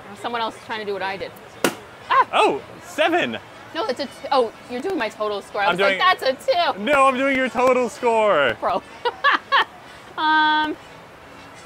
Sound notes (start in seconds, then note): 1.6 balloon popping; 8.7 laughing